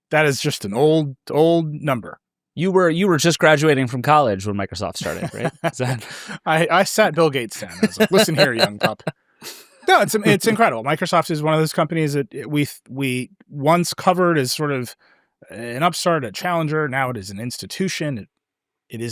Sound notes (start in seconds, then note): 5.0 laughs